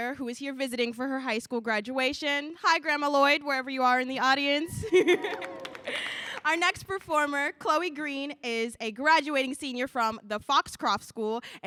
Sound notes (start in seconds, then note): 4.8 laughs; 5.1 audience applauding